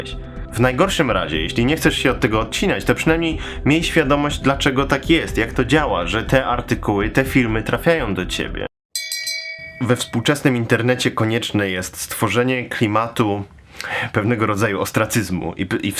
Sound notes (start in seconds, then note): 8.9 boxing bell